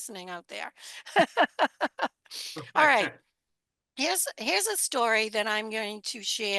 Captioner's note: laughter